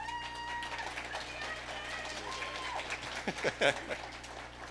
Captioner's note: audience applauding